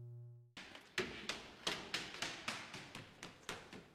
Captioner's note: light footsteps